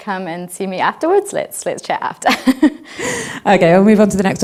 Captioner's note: laughing